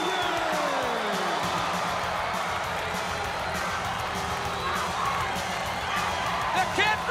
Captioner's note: crowd cheering